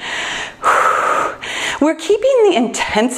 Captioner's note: sighs